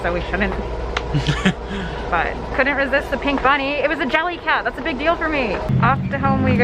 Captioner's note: laughs